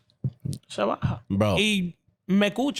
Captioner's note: speaking In Foreign Language